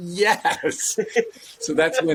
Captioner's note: laughs